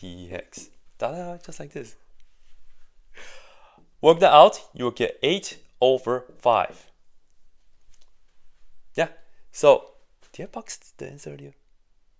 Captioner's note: sighs and gasps